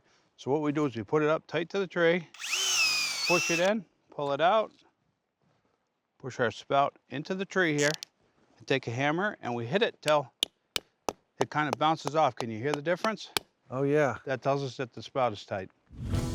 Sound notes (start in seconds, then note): 2.3 drilling sound; 11.2 hammering